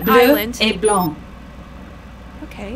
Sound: french 00:14:52

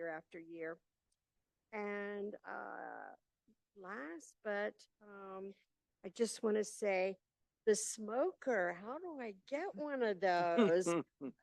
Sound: laughter

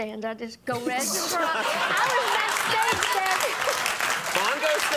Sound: audience clapping

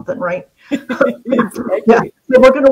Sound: laughs

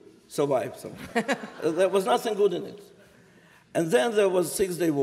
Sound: laughter

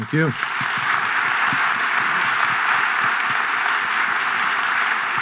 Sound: audience clapping

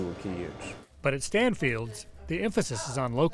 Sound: voiceover

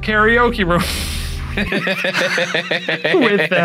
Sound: laughing

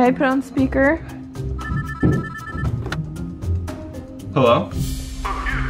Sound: phone ringing

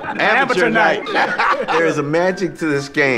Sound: laughing

